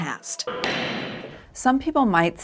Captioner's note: gavel thuds